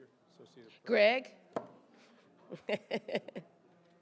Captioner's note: laughs